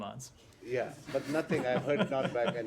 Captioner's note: laughter